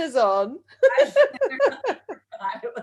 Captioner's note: laughs